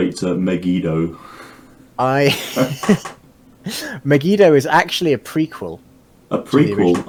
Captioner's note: laughing